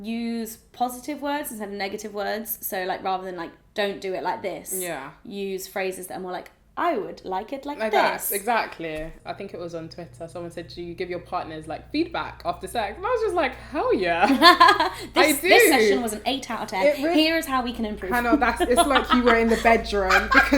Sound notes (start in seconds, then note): 14.2 laughter